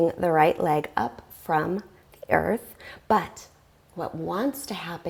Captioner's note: deep breathing sounds